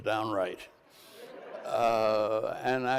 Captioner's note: crowd laughs